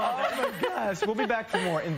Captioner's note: laughter